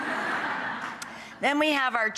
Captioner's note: audience laughs